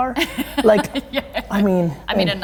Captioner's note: laughing